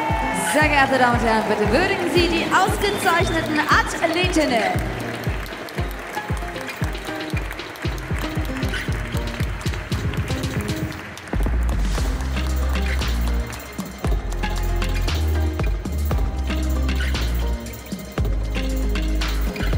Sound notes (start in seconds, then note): 5.1 applause; 5.1 ♫ Midtempo guitar music ♫